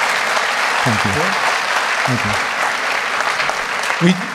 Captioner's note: applause